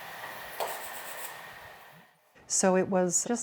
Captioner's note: pastel stick scratching